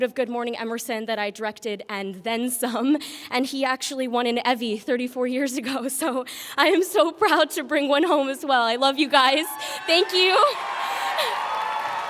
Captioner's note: applause